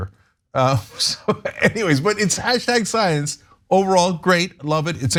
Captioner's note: laugh